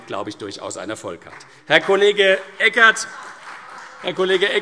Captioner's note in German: Beifall CDU und vereinzelt BÜNDNIS 90/DIE GRÜNEN - Vereinzeltes Lachen SPD